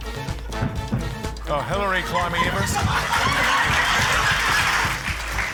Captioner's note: laughter